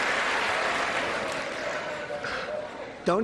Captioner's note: applause